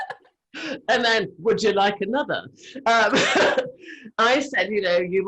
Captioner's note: laughs